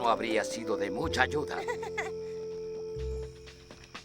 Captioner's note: laughs